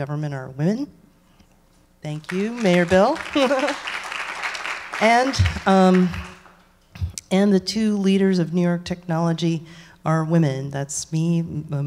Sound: laughs

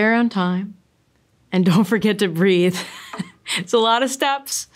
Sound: laughter

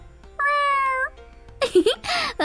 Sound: cat meowing; laughing

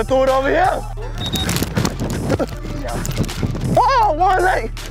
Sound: whistle blows

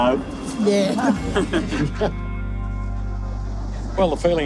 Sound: laughter

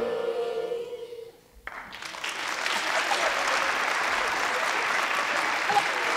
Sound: audience applauding

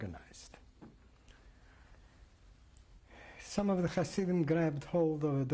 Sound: pauses for 3 seconds

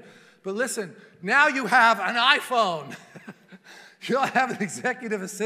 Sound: laughing

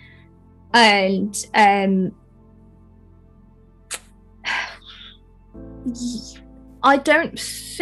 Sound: sighs, clicks tongue

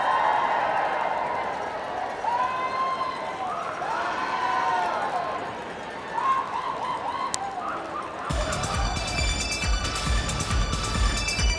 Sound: cheering

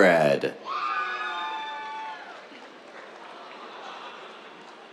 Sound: cheers, applause

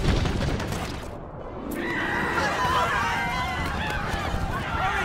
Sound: screaming, Shouting

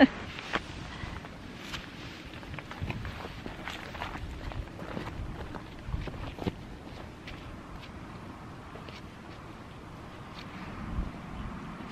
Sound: fabric rustling, wind, footsteps; laugh

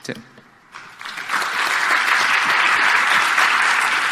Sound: applause

